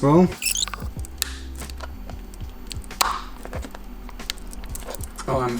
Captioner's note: loud cracking sounds